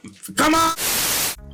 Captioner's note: TV Static